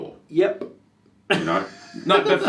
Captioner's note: laughing